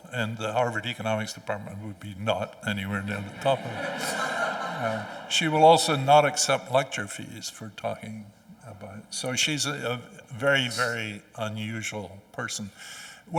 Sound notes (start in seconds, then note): 3.1 audience chuckling